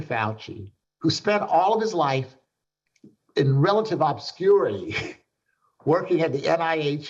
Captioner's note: chuckles